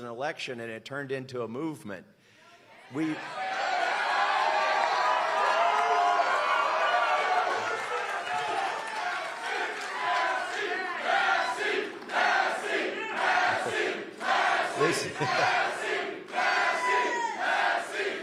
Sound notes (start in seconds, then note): 0.0 applause; 9.5 cheers and applause